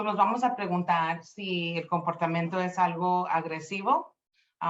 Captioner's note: speaking Spanish